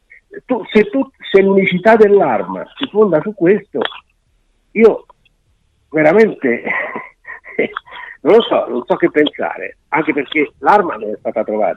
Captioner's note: laughs